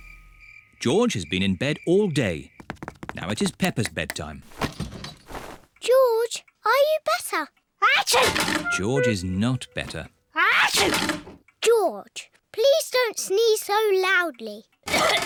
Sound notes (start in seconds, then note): 8.2 sneezes; 10.6 sneezes